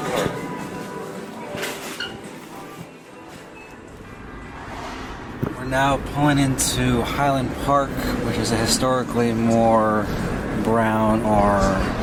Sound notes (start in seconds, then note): 1.9 sneaker squeaking; 3.8 car traffic noises